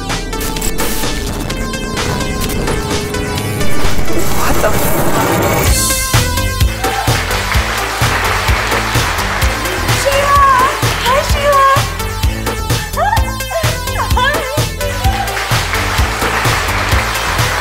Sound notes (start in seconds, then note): 0.0 upbeat music; 0.3 static buzzes; 2.2 upbeat music; 3.4 static buzzes louder; 5.6 static buzzes; 6.5 upbeat music; 7.5 audience clap; 12.3 upbeat music; 13.2 host chuckles; 14.4 audience claps; 17.4 upbeat music